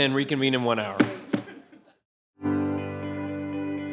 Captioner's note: gavel thudding; gentle upbeat music